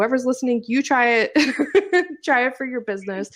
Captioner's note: laughs